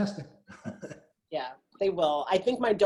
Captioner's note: laughing